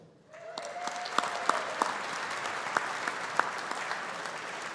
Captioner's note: audience applauding